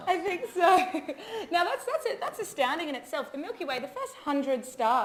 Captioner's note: laughs